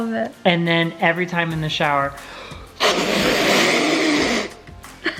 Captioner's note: blowing